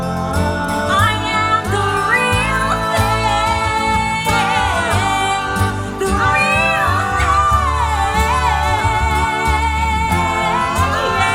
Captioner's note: ah! ah! ah! ah!